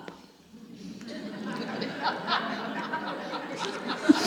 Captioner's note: audience laughs